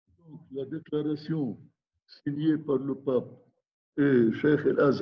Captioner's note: speaking in foreign language